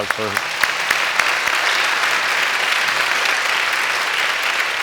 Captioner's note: audience applauding